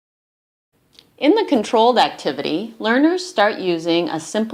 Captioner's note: voiceover